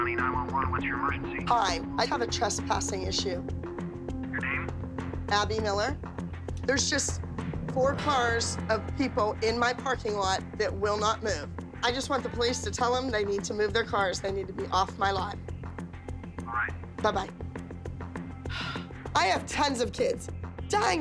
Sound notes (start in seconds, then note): 3.8 on phone; 15.5 on phone; 18.4 sighs